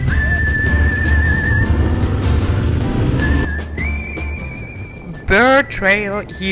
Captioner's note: motorbike roaring; lively music